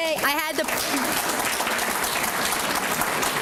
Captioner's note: applause